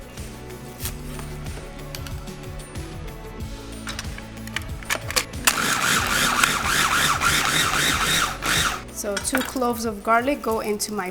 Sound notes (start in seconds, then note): 0.2 pleasant music; 5.4 food processor whirring